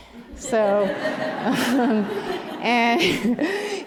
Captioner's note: laughter